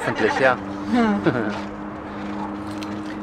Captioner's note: laughter